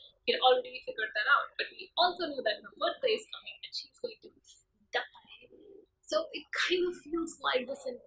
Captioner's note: whispers